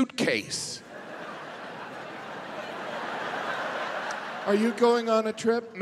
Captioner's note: audience laughing